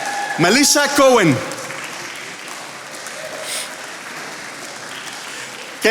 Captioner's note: attendees applauding